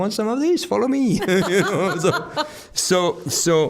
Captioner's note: both laughing